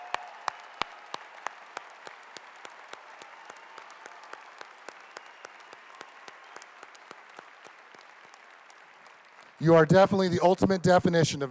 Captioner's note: applause